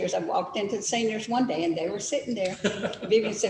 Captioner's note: laughs